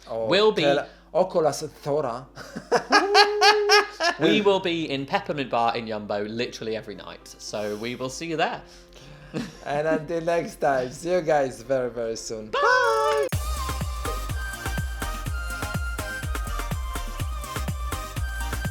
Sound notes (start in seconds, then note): 1.1 speaking in foreign language; 2.4 laughing; 12.6 upbeat music